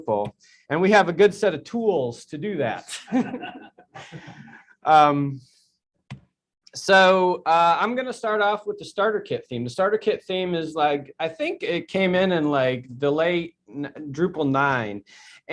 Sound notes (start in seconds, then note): 2.9 laughter